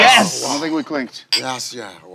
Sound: clink

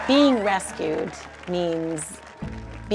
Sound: cheering

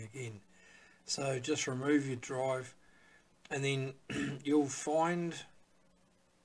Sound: clears Throat

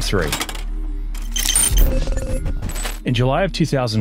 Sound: computer beeps

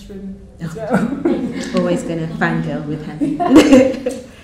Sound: laughs

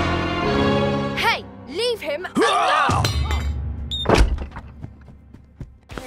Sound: Airrack grunts

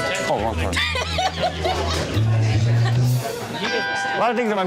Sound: woman laughs

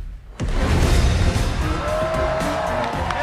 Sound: cheering; overlapping shouts

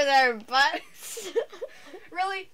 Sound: laughter

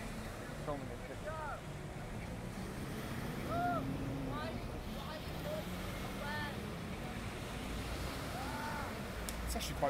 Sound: general angry remarks from a distance

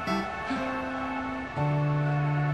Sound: scoffs

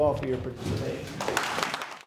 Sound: applause

